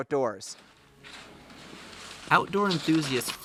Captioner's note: skies whooshing